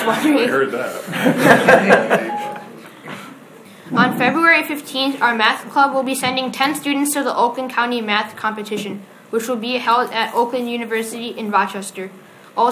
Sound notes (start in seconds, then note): 0.0 audience laughs